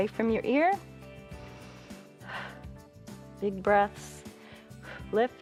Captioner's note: inhales and exhales